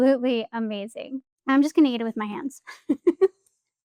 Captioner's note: laughing